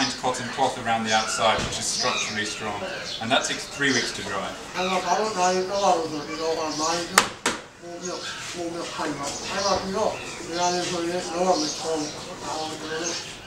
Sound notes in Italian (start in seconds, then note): 7.7 parla birmano